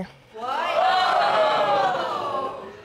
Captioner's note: audience exclaims